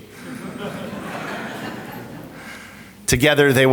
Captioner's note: audience laughs